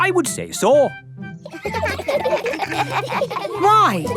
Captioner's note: children giggling